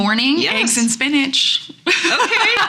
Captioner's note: laughs